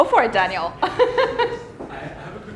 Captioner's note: laughs